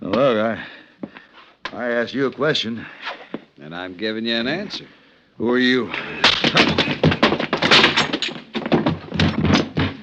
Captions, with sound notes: Well, look, I-- I asked you a question. And I'm giving you an answer. Who are you? [Gunshots]